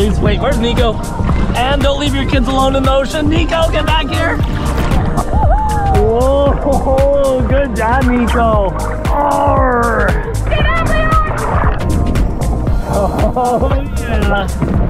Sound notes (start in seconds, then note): 9.1 grunts